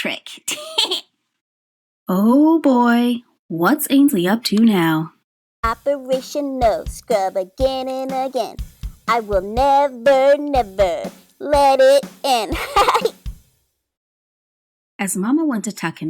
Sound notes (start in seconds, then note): 5.6 drumming; 12.5 cackling